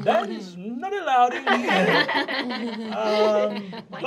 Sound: laughs

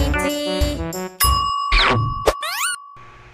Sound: dings

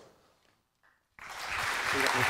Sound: applause

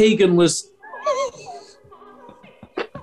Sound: sniggering

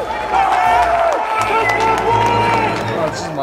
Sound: audience cheering

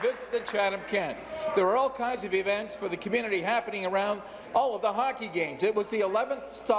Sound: applause

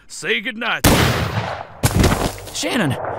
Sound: gunshot; body thuds on the ground

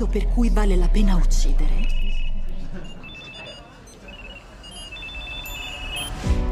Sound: phones chiming

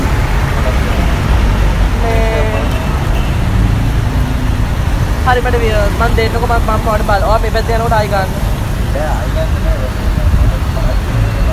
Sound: conversation

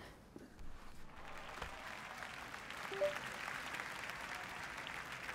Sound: applause

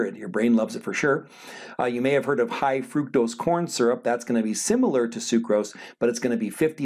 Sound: sigh

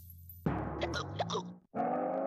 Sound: hiccupping

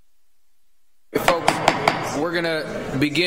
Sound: gavel bangs

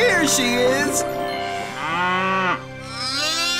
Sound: mooing

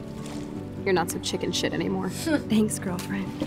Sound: chuckles

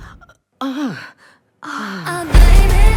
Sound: gasps

